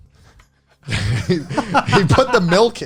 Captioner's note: laughs